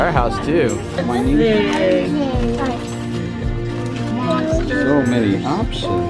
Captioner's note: kids murmuring excitedly